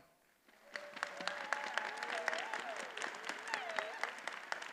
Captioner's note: attendees applauding